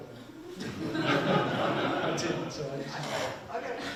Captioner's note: people laughing